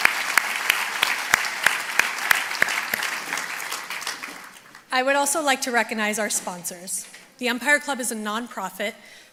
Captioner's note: applause